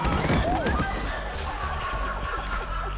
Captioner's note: both gasping; both thudding; audience laughing; suspenseful music; air whoosh; cast laughing